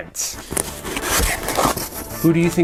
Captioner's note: box rustling